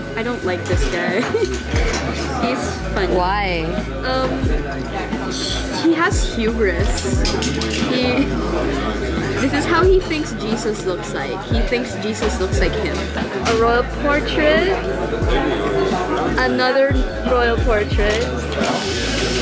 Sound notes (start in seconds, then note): 1.0 laughs; 3.5 laughs